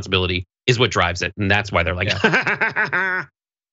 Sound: laugh

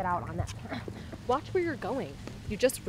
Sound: grunts

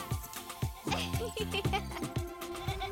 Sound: laughing; upbeat music

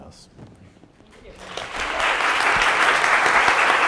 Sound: applause

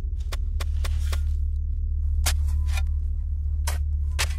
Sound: trowelling sand continuously

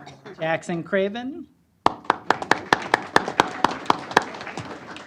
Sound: applause

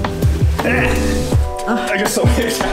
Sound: grunting

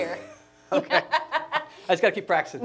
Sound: laughs

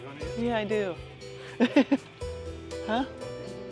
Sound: laughs

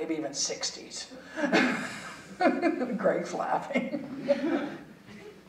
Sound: chuckling

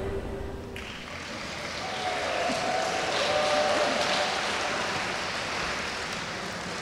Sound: audience applauds; audience cheers

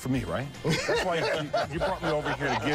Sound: laughter

